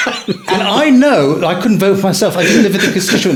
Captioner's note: laughing